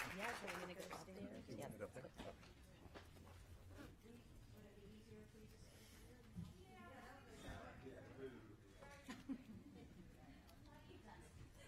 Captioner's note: applause